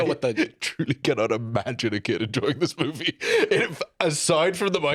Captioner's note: laughing